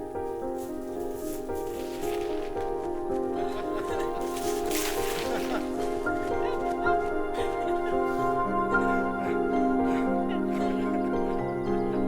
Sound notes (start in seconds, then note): 3.3 Matt and woman laughing